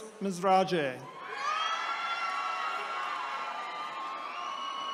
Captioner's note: attendees cheering